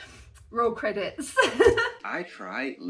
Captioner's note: laughing